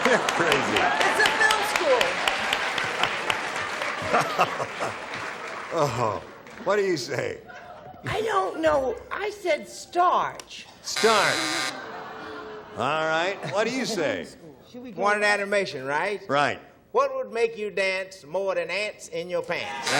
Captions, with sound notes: -You're crazy. -It's a film school. (cheers and applause) -What do you say? -I don't know. I said starch. (buzzer) -All right. What do you say? -One in animation, right? What would make you dance more than ants in your pants?